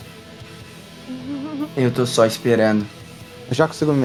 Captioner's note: laughs